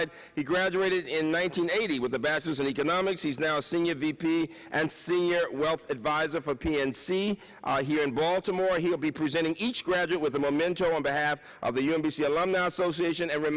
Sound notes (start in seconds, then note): none